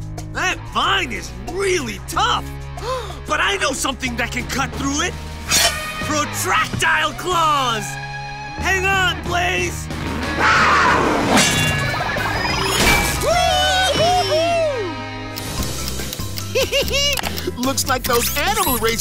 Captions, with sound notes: That vine is really tough. [gasps] But I know something that can cut through it! Protractile claws! Hang on, Blaze! [roars] - Whee! - Whoo-hoo-hoo! [laughs] Looks like those animal racers